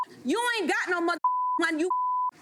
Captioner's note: beep